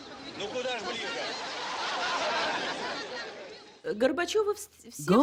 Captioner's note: Raised voices! laughter from crowds & from Gorbachev; speaking Russian